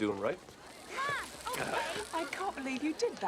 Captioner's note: children shout